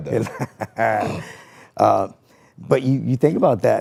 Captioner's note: person laughing